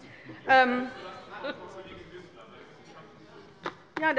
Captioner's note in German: Heiterkeit bei der LINKEN